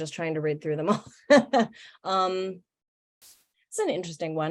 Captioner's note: laughs